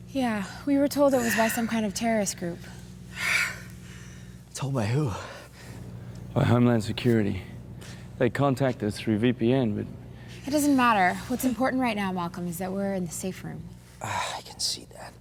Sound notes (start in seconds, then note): 3.2 exhales deeply